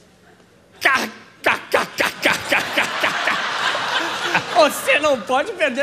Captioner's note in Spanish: riso